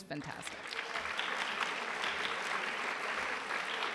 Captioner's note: applause